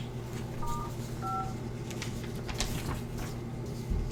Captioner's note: phone beeps